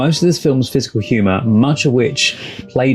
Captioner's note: none